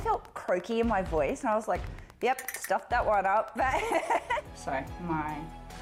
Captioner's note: laughs